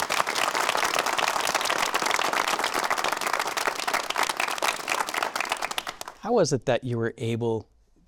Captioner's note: audience appluading